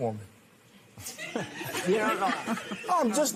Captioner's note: laughter